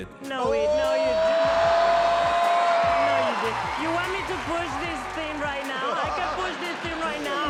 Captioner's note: cheering